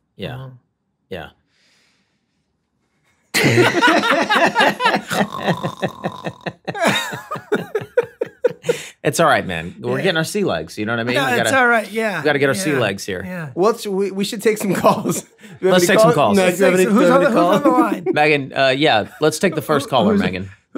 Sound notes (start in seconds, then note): 3.3 all laughing loudly